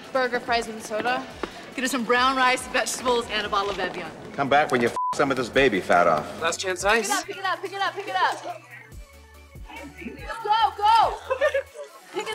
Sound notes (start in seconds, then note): 4.9 beeps; 11.0 dancers chattering